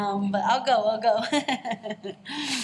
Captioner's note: laughs